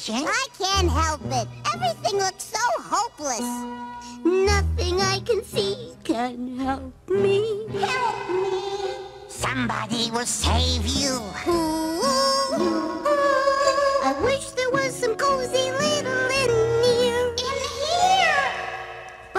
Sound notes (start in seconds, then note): 7.8 echoes; 12.6 echoes; 18.1 echoes